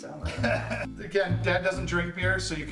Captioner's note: laughs